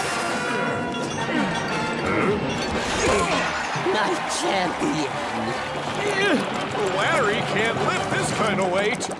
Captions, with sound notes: Huh? My champion. [grunting] Larry can't lift this kind of weight.